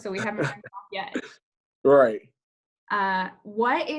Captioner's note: laughs